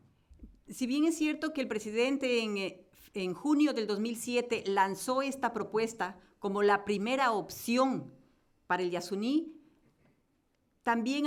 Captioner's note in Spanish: Español